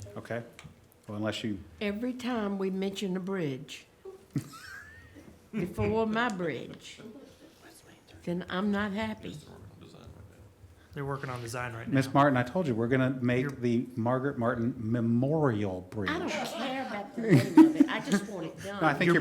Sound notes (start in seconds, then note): 4.1 laughter; 17.1 laughter